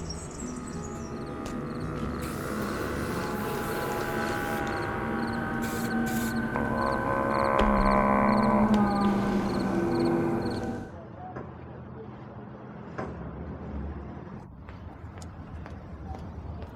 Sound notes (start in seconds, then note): 0.2 spray paint can shaking; 1.6 paint can spraying; 6.2 zombies groaning; 8.7 audience applauding